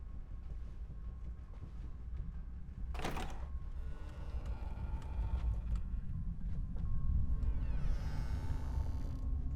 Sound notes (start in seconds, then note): 2.9 door creaks